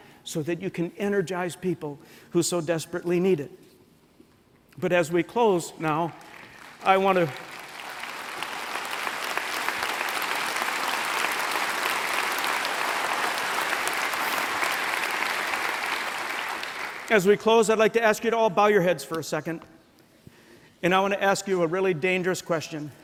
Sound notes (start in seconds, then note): 8.3 applause